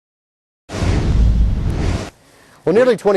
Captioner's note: swoosh effect